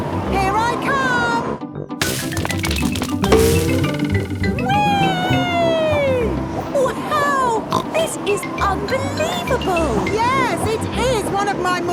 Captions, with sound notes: Wee! (snorts) - Wow! This is unbelievable! - Yes! It is one of my more amazing rescues!